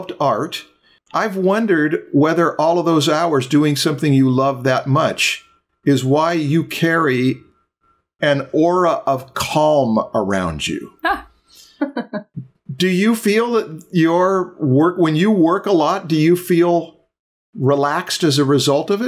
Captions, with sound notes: art? I’ve wondered whether all of those hours doing something you love that much is why you carry an aura of calm around you. [Laughter] Do you feel that your work - when you work a lot, do you feel relaxed as a result of